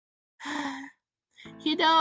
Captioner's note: sighs